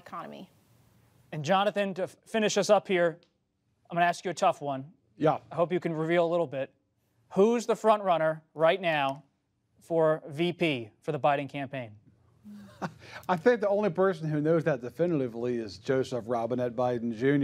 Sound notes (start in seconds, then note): 12.5 laughs